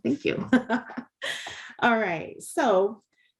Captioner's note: chuckling